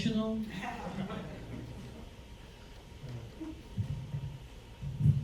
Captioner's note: audience laughs